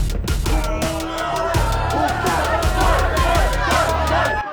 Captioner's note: dramatic music; people hollering; crowd